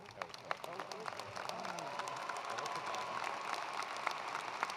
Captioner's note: attendees applauding